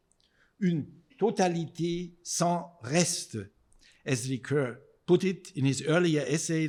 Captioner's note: speaking in foreign language